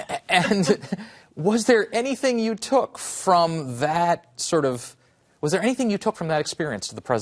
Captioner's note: laughter